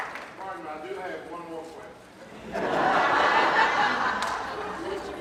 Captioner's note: audience laughing